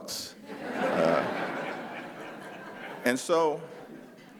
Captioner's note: laughter